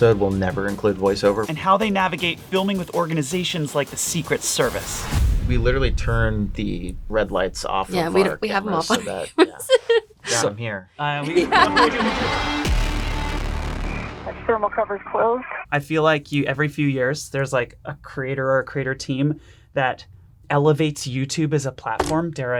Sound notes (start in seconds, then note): 11.2 laughing